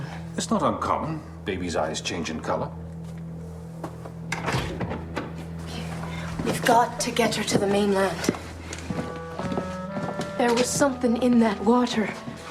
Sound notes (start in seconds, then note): none